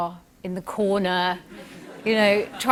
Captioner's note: laughter